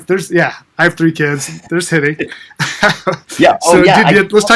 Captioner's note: laughing